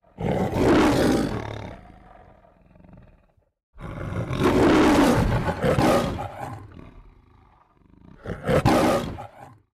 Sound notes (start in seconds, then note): 0.0 roaring; 2.1 more roaring loudly